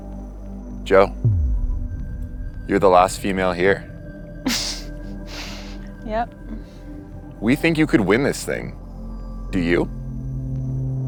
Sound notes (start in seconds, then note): 4.9 laughing